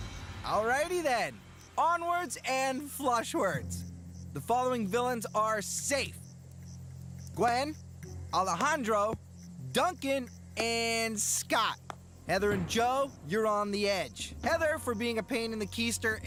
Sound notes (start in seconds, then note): none